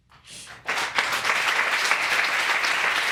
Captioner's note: applause